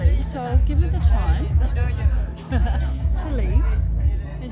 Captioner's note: laughing